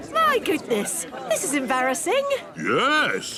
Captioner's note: snorts